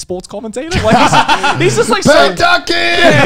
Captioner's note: laughs